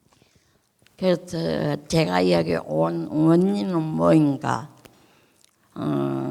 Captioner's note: speaking in foreign language